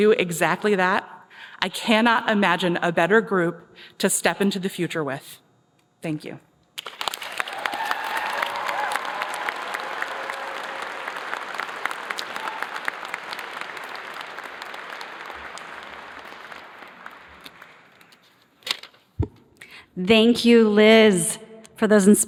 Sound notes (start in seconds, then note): 8.9 cheers and applause